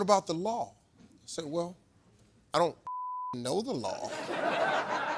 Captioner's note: beep; audience laughs